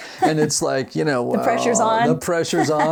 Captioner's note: laughs